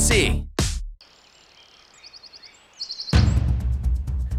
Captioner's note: birds chirping; intense music